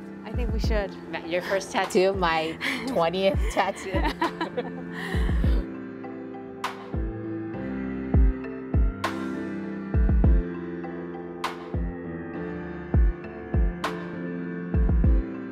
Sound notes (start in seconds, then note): 3.3 laughter